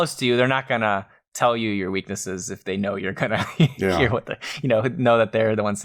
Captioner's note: laughs